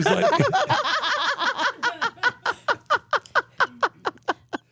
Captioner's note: laugh